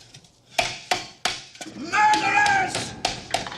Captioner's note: clanking